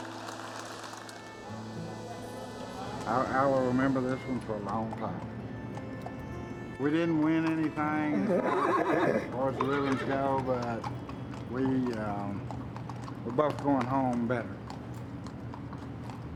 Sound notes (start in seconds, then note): 0.0 cheers and applause; 7.4 horse neighs; 16.1 hooves clopping